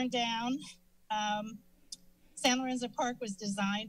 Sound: clicks tongue

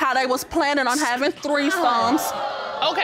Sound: audience gasps

